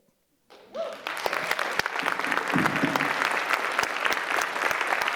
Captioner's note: audience cheers and applause